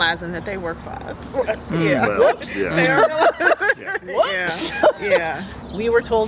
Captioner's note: laughter